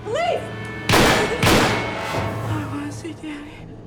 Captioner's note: gunfire pops